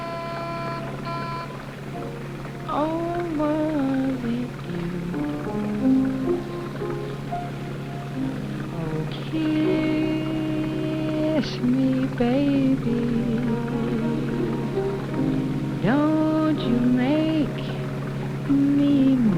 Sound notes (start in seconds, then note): 4.7 honking; 7.1 singing